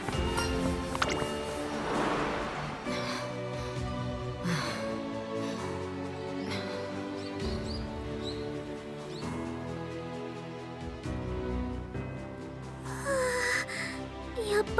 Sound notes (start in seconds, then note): 2.6 huff; 2.8 sigh; 12.9 sigh